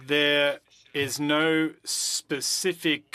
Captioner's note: speaking French